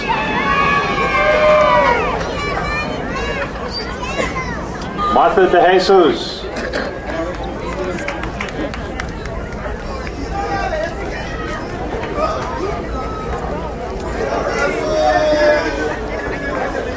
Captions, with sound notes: (crowd cheering) Martha De Jesus. (crowd applauding)